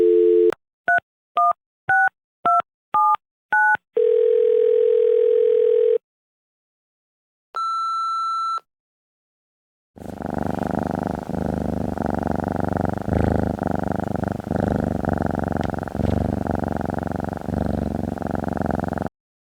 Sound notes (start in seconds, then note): 7.6 beep~~~; 15.0 purr~~~~~~~~~~~~